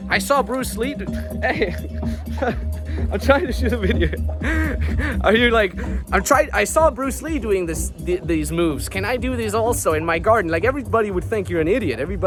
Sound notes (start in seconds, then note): 4.7 laughs